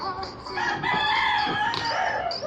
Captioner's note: cock-a-doodle-doo